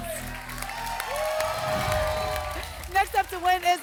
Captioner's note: applause and cheering cont